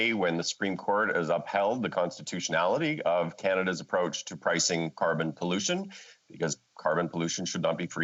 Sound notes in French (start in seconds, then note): 1.4 voix de l'interprète